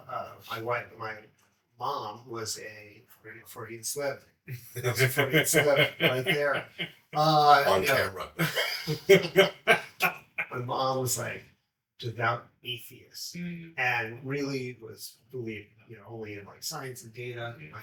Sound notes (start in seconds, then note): 4.5 laughs; 8.9 laugh